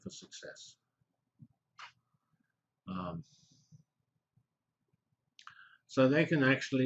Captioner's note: pause